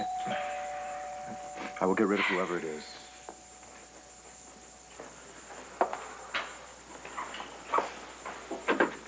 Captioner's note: doorbell rings